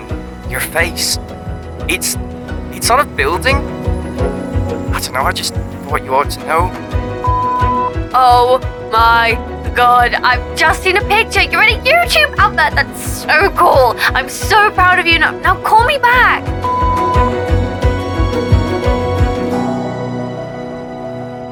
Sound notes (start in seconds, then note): 7.2 phone beeping; 16.6 phone beeping